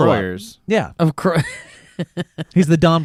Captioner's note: laughs